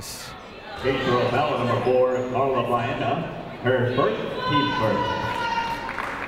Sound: muffled voice speaking over speaker

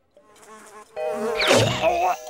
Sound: buzzing; choking

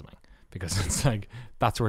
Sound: laughs

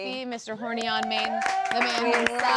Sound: audience cheering

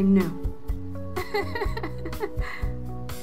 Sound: laughs

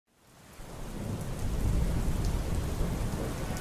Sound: gentle rainfall

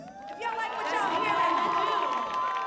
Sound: audience cheering

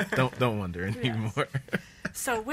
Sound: laughs

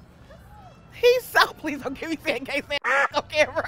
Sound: laughs

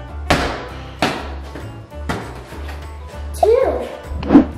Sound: giant cube hits floor; country music

